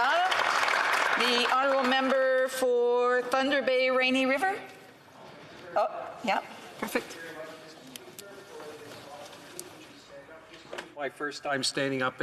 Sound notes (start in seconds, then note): 2.0 applause